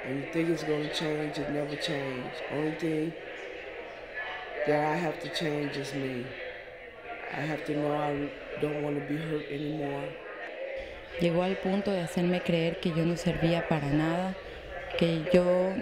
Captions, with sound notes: - And you think it's going to change. It never changed. Only thing that I have to change is me. I have to know I don't want to be hurt anymore. (speaks in foreign language)